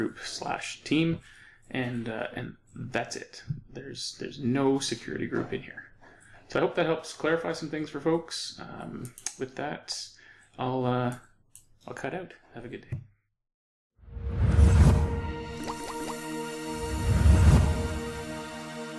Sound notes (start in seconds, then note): 14.3 whooshing